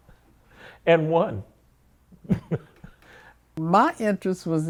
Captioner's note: laughs